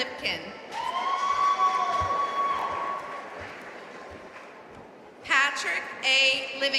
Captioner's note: audience cheering and applauding